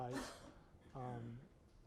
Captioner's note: cough